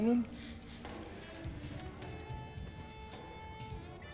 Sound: chuckles softly

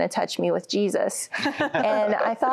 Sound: laughter

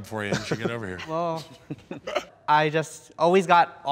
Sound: all laughing

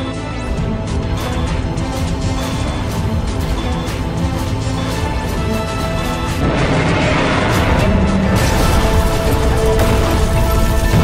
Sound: Godzilla Minus One roars

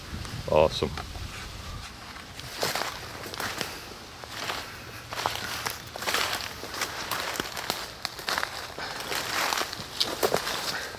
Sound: footsteps crunching in the leaves

